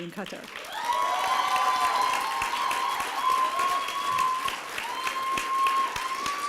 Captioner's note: applause and cheering